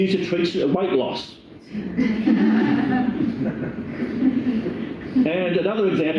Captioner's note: laughter